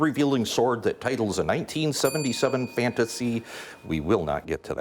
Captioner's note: bell dings